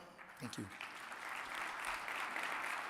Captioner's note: audience applauding